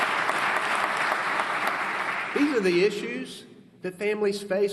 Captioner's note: applause